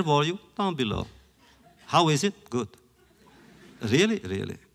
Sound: laughter

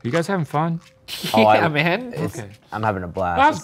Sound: laughs

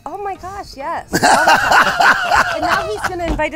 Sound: laughing

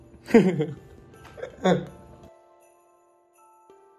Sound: laughing

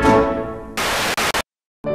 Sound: fuzzeh mcfuzz fuzz sound

